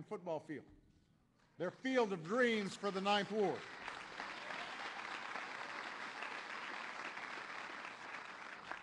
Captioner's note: applause